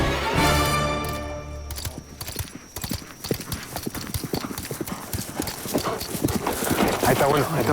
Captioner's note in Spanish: Ruido de los cascos